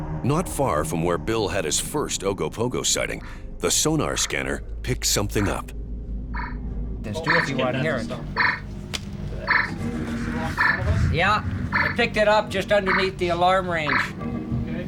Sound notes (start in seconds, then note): 6.3 sonar beeping; 7.0 men chattering